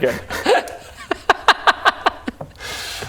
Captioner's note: deserved mocking laugh